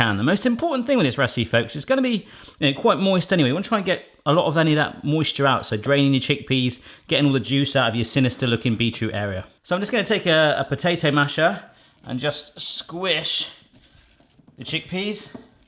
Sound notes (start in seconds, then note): none